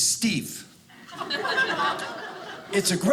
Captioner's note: audience laughing